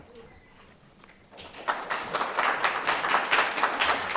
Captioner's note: applause